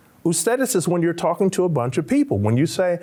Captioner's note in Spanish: Señor hablando en un idioma extranjero